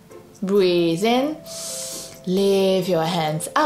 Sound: breathes in deeply

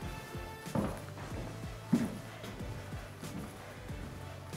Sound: footsteps thudding

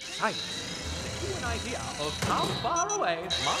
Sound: voice fades

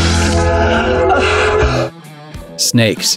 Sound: soothing music; gasping for air

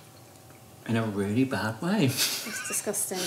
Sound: laughs

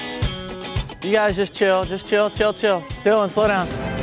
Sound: voiceover

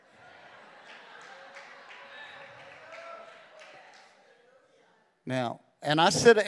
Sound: congregation laughing

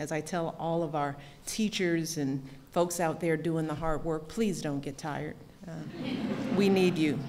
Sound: laughter

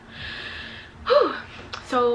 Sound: sighs

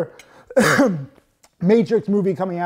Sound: coughs

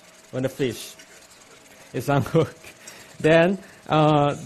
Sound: chuckles

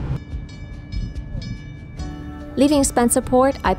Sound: bell ringing

